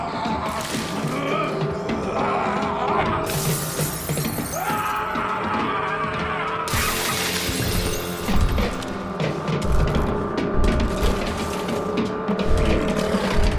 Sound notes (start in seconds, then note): 0.0 zombie walter growling; 3.2 glass shattering; 4.6 zombie walte yelling; 6.7 glass shattering; 9.6 zombie spartacus growling